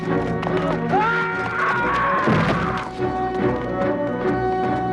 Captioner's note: guard screams